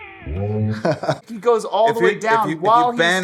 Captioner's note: chuckling